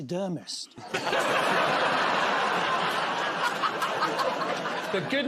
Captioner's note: laughter